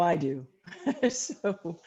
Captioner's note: laughter